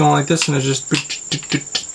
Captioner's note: insert weird rivet noises here